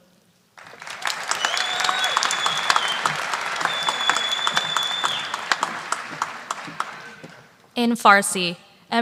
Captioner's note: applause